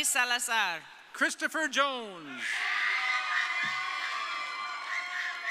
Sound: audience cheering

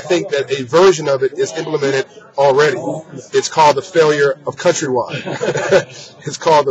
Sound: laughter

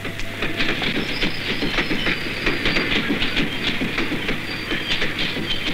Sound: train rumbling

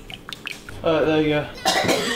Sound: coughs

